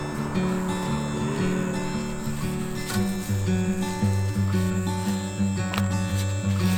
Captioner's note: laughs